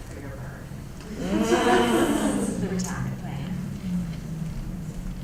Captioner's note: laugh